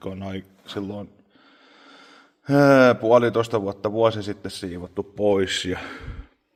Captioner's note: sigh; heavy breath